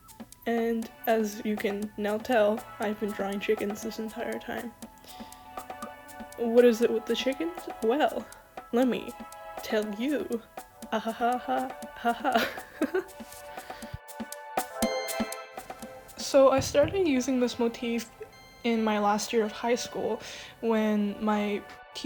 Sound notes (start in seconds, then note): 12.0 begins real laughing because I'm starting to lose my mind; 12.1 fake laughs in disappointment